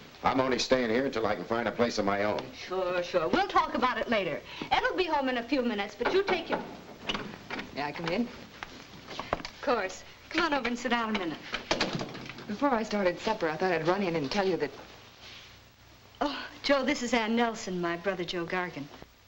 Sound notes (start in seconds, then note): 6.0 knocking at door; 11.7 door thuds shut